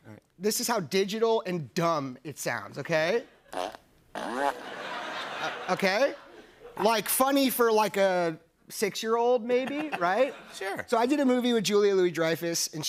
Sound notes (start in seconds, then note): 4.1 fart sounds; 4.5 laughter